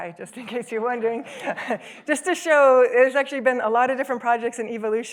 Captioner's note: laughs